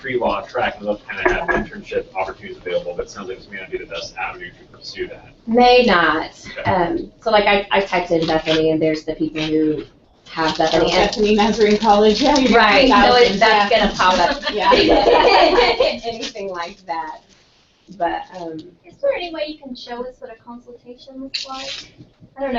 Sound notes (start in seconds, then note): 10.4 laugh